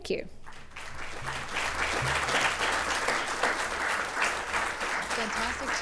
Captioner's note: applause